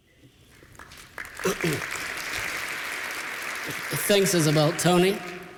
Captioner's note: applause; clears throat